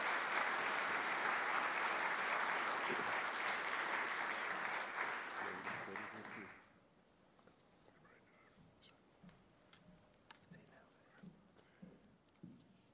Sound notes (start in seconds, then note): 0.0 applause